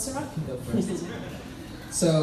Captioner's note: laughs